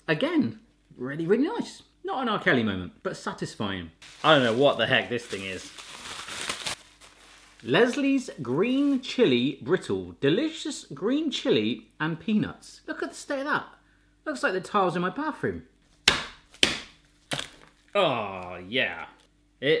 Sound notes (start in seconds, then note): 17.2 bangs candy